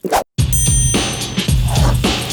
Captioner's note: bottle pops; dings; plate scrapes on wood